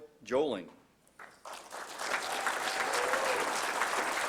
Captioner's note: applause